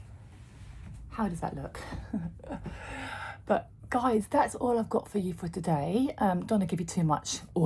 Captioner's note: sighs and gasps